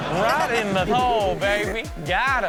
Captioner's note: audience laughs